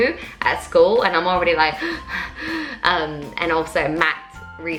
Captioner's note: heavy breathing